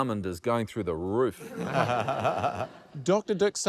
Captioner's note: laughter